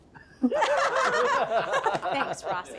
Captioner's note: laughing